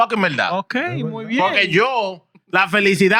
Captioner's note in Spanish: Hablando en idioma extranjero